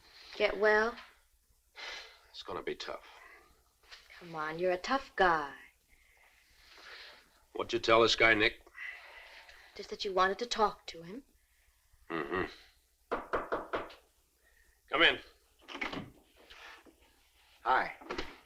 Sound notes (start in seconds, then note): 2.0 sighs; 12.9 knuckles rapping